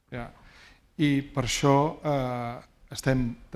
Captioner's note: speaking spanish